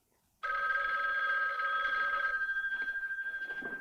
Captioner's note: phone ringing